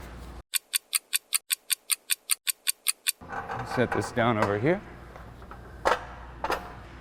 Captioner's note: ticking